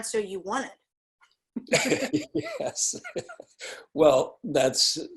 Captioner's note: laughing